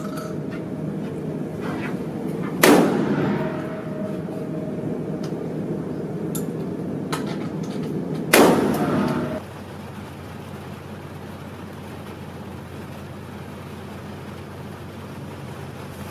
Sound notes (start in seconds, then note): 9.8 rain tapping